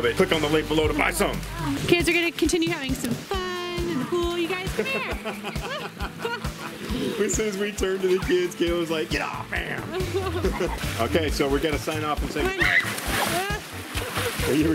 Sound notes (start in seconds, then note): 4.5 laughs